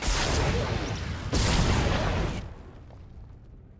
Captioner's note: explosion